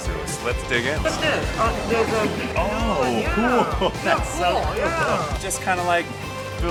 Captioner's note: laughter